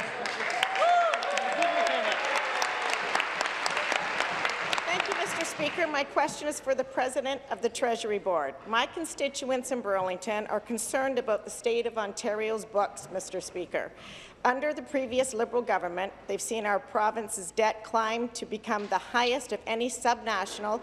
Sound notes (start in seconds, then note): 4.4 applause